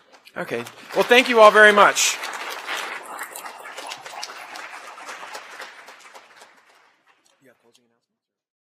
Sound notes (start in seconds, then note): 2.0 applause